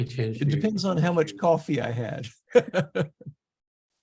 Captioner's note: laughs